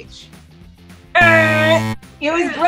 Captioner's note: buzzer